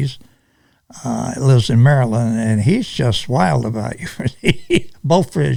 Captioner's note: laughs